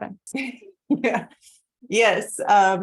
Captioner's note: laughs